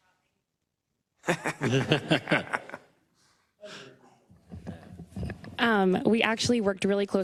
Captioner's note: laugh